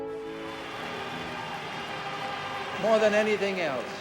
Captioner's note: crowds cheering